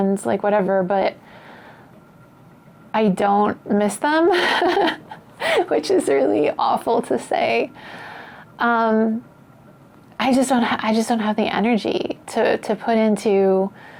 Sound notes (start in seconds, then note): 4.3 laughs